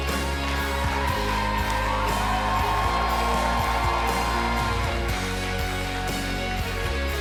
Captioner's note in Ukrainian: оплески